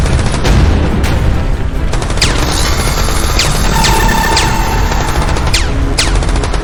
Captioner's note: explosions booming; guns firing